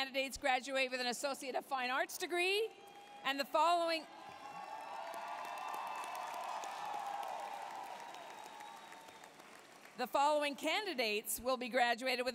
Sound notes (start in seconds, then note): 4.0 applause, cheering